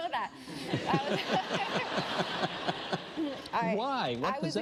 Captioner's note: laughter